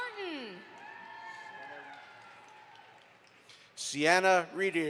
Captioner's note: audience applauds